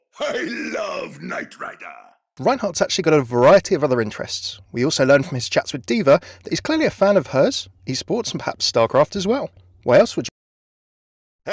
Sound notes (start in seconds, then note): 2.5 voiceover